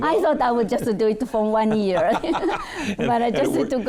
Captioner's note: laughing